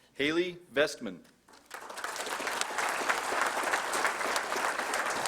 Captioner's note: applause